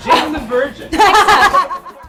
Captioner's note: laughs